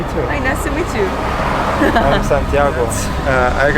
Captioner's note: laughs